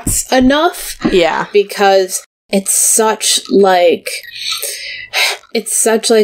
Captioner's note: sighs